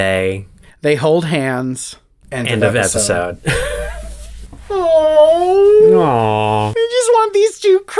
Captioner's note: crying